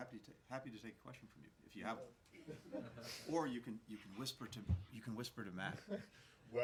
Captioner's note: laughter